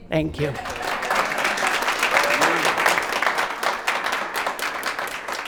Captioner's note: audience cheering